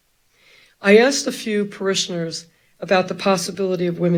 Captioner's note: none